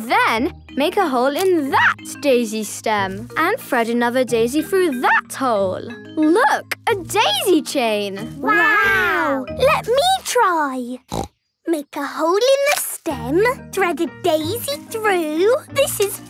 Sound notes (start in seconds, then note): 11.0 snorting